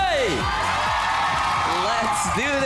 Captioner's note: cheering, clapping